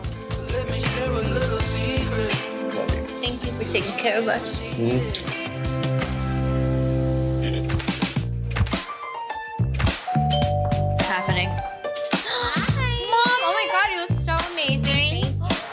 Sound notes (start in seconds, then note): 0.2 upbeat music; 5.5 upbeat music; 10.2 doorbell rings